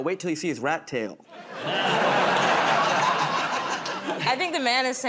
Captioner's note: laughter